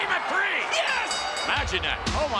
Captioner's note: bell dinging